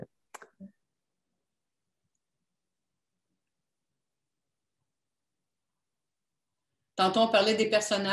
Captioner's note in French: silence